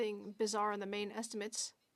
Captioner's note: speaking French